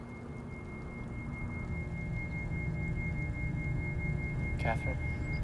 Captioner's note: high-pitched ringing